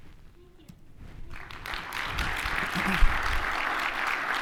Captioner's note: audience applauding